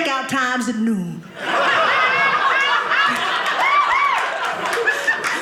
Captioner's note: audience laughing